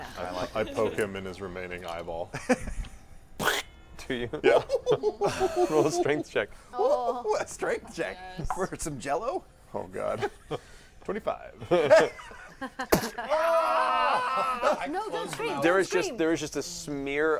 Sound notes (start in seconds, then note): 13.2 shriek of pain